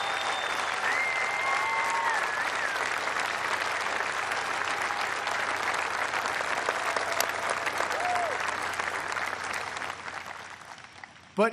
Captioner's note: applause